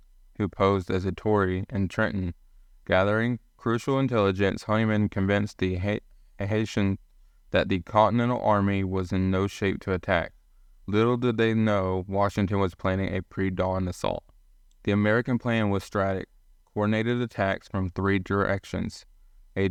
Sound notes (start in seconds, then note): 0.0 voiceover; 15.0 voiceover